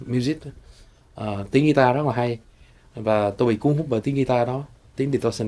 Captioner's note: speaking foreign language